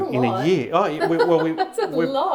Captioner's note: laughing